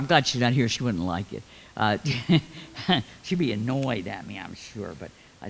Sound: laughs

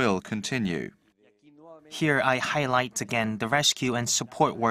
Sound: Spanish

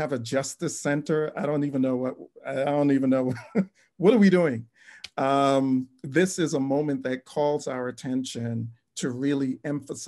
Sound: laughs

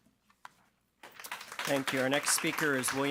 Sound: audience clapping

